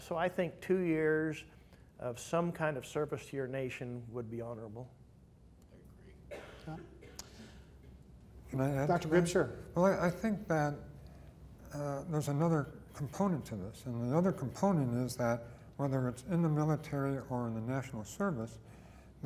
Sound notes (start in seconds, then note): 6.2 coughing